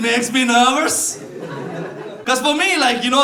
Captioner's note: laughter